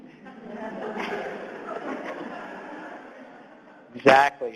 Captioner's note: audience laughs